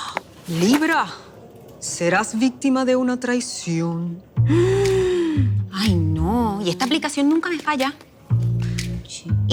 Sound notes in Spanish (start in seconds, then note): 4.5 Exhala profundamente